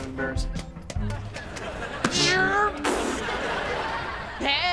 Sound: imitating teleporting sounds

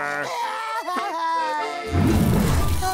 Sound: crying

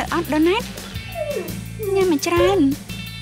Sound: dog whining

